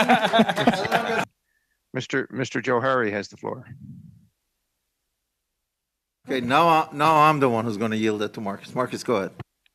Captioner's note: laughter